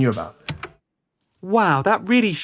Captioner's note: tape recorder clicks off